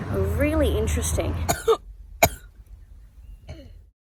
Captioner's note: coughs